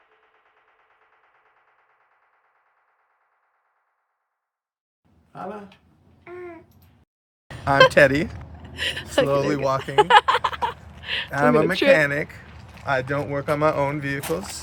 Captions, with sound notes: I'm Teddy, slowly walking. (laughing) I'm a mechanic. I don't work on my own vehicles.